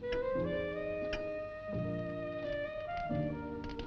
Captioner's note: clock ticking